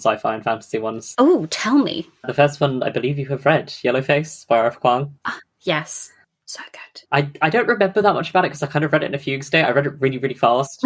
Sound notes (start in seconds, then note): 5.9 whispers